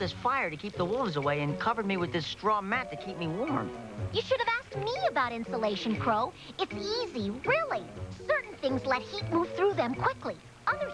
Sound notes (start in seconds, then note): none